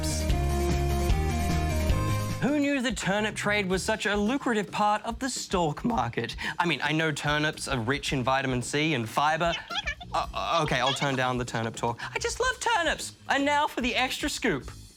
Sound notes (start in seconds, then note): 0.2 up-beat music; 10.6 chattering